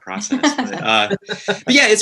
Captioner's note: laughing